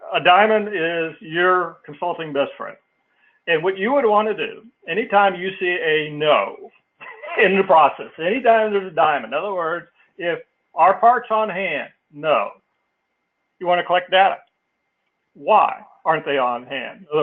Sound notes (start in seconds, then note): 7.0 laugh